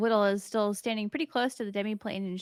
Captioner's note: none